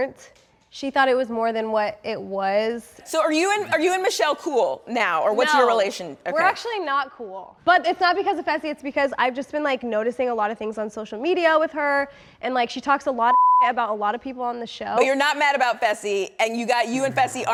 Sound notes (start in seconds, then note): 13.3 beep